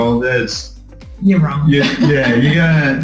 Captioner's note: laughs